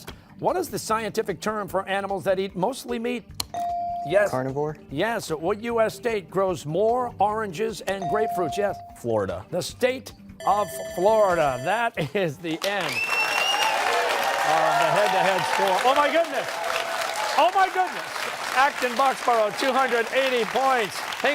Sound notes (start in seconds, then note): 10.4 bell rings